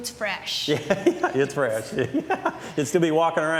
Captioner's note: laughs